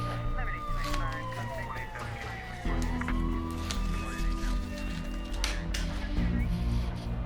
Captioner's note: sirens